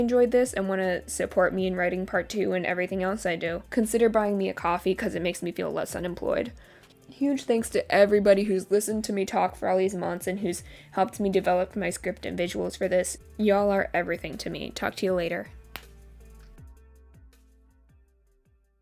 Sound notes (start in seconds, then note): 15.7 sound of shoulder popping concerningly loudly